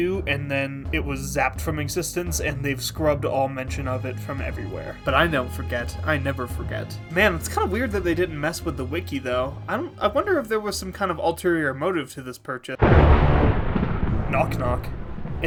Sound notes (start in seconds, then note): 12.8 thunder